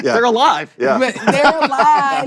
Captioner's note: laughter